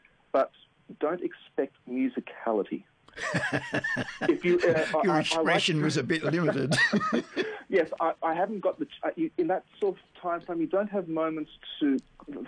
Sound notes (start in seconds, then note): 3.1 laughs